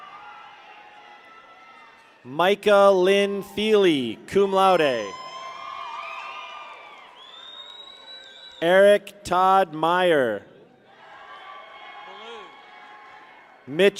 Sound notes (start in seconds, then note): 0.0 people cheer; 4.4 people cheer; 6.9 people whistle; 10.8 people cheer